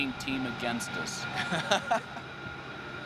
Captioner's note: laughs